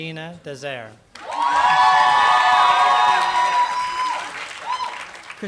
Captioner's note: applause